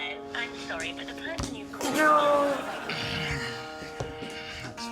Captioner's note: voicemail